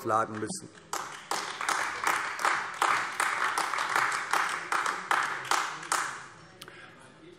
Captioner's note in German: Beifall AfD